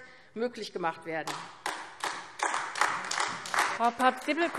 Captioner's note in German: Beifall AfD